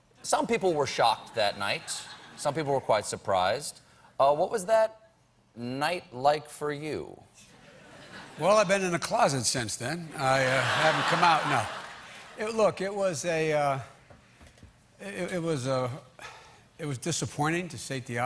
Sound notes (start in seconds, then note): 10.2 laughter